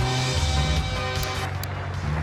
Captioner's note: engine roaring